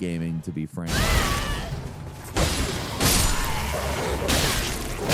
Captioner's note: characters grunting